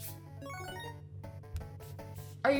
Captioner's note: 8-bit game noises